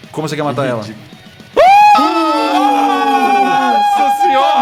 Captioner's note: praises and shouts